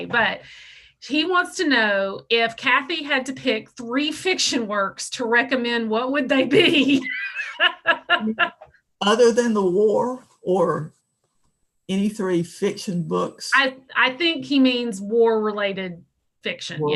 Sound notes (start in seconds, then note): 6.5 laughs